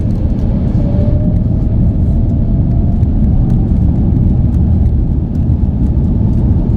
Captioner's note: engines go burr